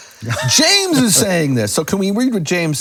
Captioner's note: laughing